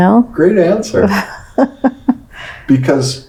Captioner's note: laughs